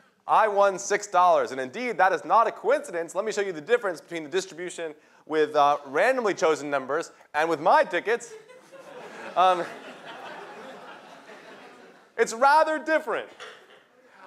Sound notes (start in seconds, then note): 8.2 laughter